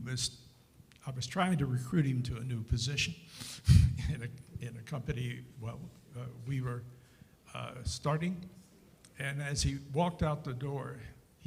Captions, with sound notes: I was trying to recruit him to a new position (chuckles) in a company, well, we were starting. And as he walked out the door,